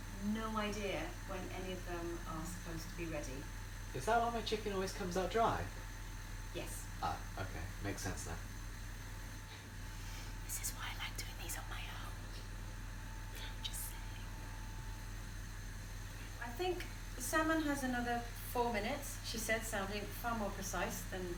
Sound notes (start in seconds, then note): 7.7 whispers